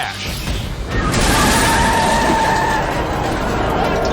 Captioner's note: tires screech